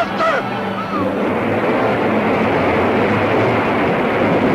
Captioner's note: suspenseful music continues; water splashing